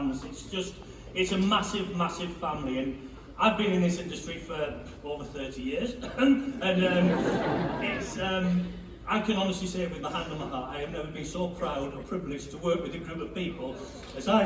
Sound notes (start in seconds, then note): 5.9 cough; 6.6 laughter; 10.5 choking up